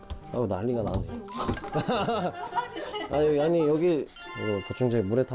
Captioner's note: pouring out